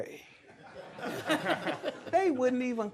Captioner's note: laughter